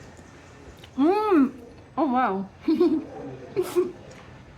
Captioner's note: giggling